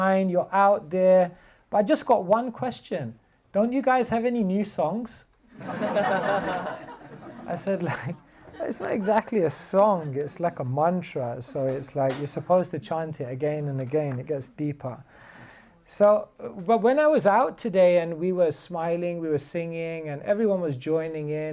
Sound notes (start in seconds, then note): 5.5 laughter